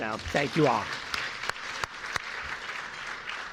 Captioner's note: applause